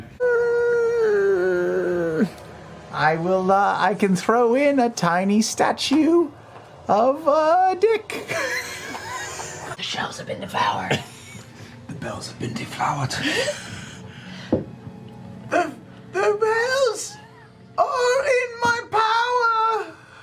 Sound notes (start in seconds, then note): 9.5 whispering; 14.9 doing the worst job of whispering known to man